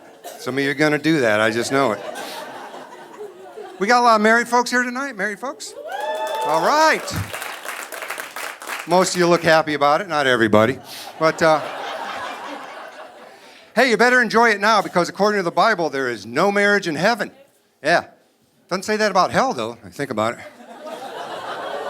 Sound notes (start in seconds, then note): 5.8 audience applauding; 10.1 audience laughing